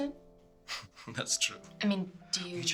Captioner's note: chuckles